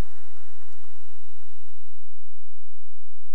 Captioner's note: whistling